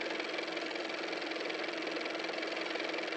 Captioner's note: car motor